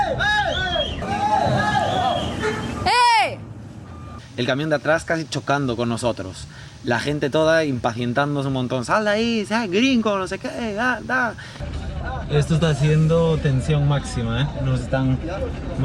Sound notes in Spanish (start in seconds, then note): 0.0 gritos de fondo; 3.4 gritando